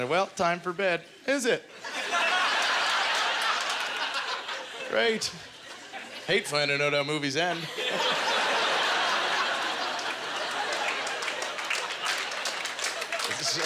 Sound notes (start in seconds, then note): 1.8 audience laughter; 7.5 audience laughter; 8.5 audience applause